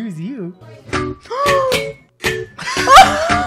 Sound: video game melody; gasps; both laugh

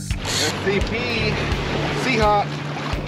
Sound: reel cranking

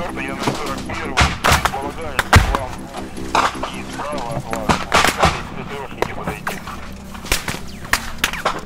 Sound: radio exchange

